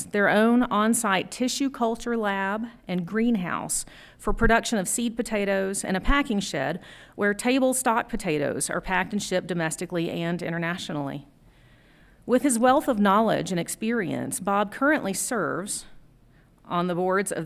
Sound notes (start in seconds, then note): none